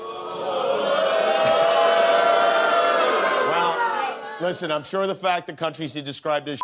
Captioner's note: audience booing